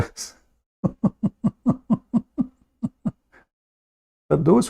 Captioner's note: Ketawa